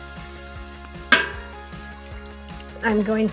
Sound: pot tinkling

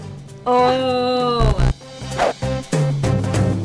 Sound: buzzing; energetic music

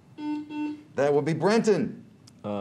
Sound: buzzer beeps

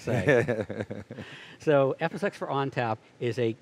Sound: laughs

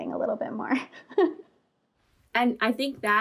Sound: laughing

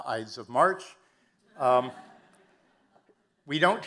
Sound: audience laughing

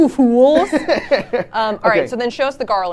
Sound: laughing

